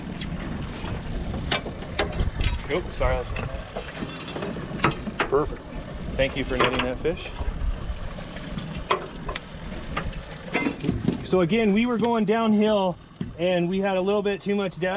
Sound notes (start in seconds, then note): 3.7 clanking; 8.3 fish thrashing